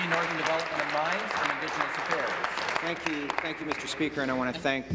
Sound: applause

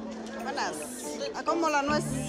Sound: speaking spanish

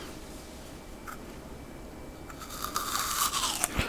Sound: crunching sound ❄

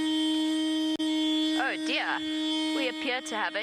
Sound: horn honking

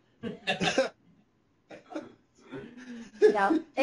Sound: laughter

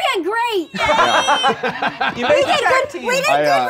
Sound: laughing

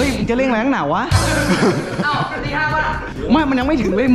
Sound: laughs

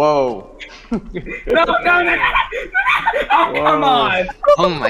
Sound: incomprehensible screaming

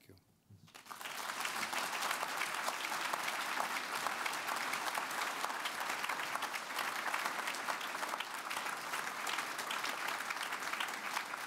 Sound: applause

